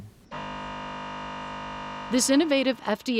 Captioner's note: machine buzzing